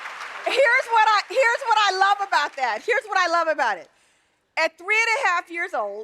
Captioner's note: applause